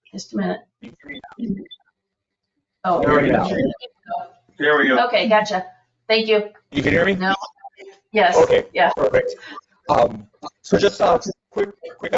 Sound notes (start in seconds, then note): 2.8 people chattering